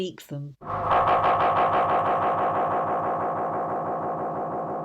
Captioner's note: radiophonic sounds